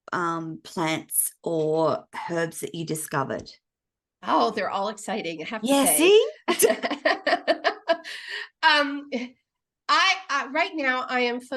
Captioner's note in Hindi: हँसी